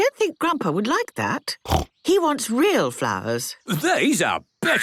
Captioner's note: snorting